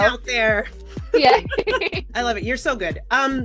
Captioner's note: laughs